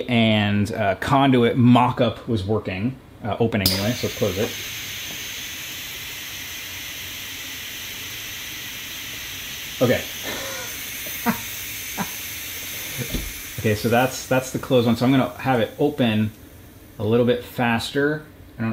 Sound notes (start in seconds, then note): 10.7 laughs